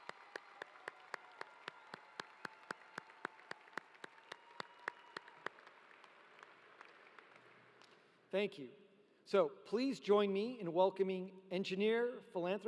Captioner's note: cheering; applause